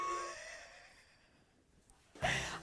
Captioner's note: laughs